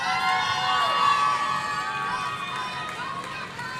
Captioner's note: audience cheering